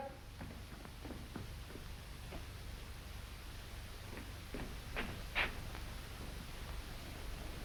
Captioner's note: none